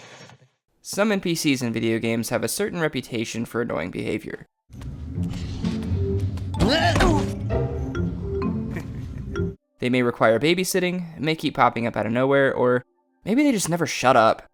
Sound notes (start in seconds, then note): 4.7 Daxter trips and falls, Jak laughs